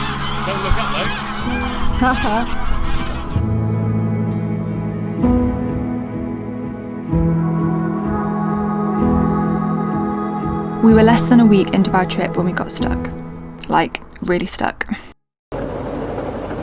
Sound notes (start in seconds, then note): 1.6 laughs; 3.7 soft music